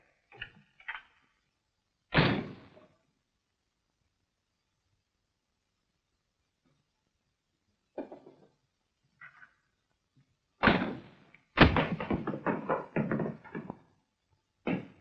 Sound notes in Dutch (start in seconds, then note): 2.2 deur dichtslaan; 11.6 vuilnisbak rammelen